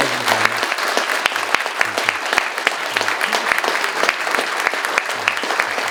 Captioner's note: audience applauding